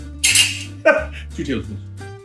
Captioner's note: laughs